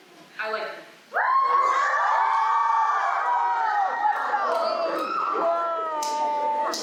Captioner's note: applause